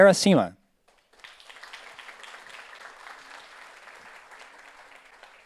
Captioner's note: audience applauds